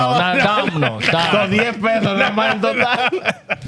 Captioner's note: speaking In Foreign Language